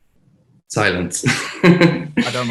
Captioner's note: laughs